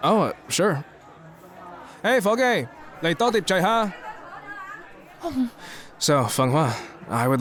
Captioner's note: in Cantonese